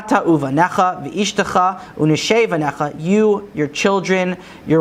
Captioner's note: Hebrew